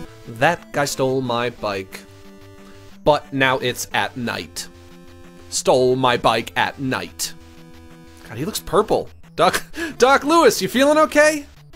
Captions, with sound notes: That guy stole my bike But now it's at night Stole my bike at night [ Normal voice ] God, he looks purple. [ Laughs ] Doc -- Doc Louis, you feelin' okay?